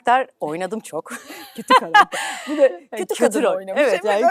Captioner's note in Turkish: kahkaha